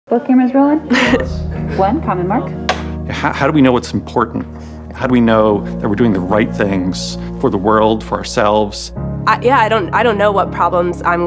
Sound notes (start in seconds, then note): 0.8 laughing lightly; 2.6 clapboard clapping